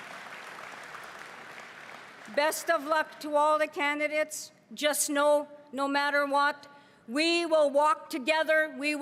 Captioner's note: cheering and applause